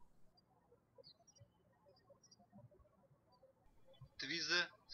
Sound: birds chirping

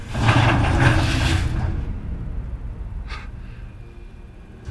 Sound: cart clattering

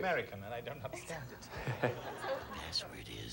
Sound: audience laughing

